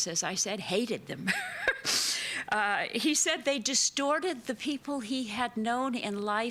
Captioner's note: chuckles